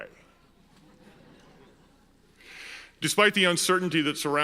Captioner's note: audience laughs